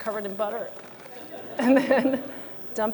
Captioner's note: laughter